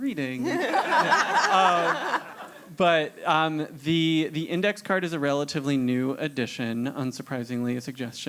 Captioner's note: laugh